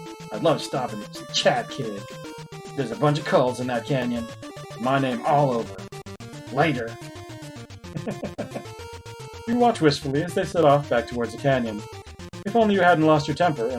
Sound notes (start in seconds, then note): 7.9 chuckles